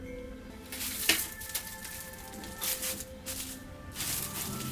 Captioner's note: props rustling